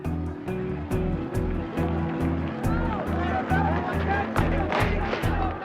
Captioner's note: yelling in background